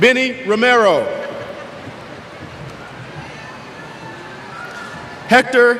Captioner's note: cheers